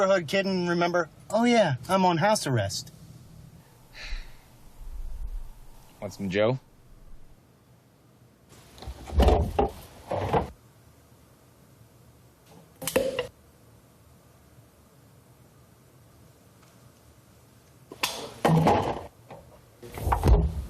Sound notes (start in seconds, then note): 3.9 sighs; 12.8 lid pops